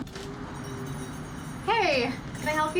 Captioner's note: bell ringing